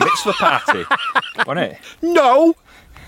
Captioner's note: laughs